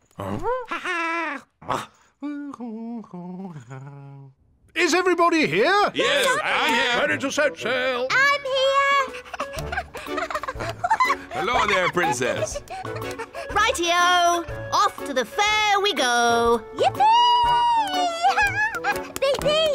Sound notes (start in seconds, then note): 2.2 hums; 9.1 giggles